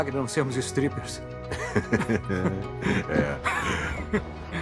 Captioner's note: chuckles